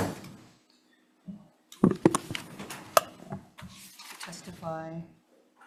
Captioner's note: papers rustling